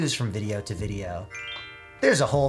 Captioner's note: twinkle sound effect